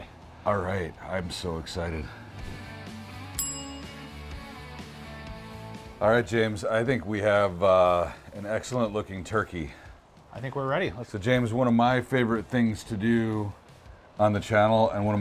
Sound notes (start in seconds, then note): 2.4 upbeat rock music; 3.3 bell dings